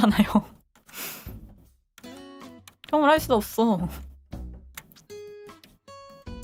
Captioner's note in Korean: 콧방귀